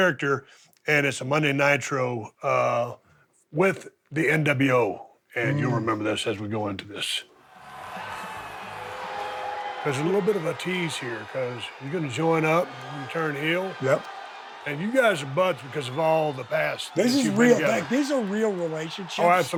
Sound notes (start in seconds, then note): 8.0 crowd chattering